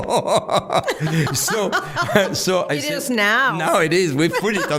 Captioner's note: laughing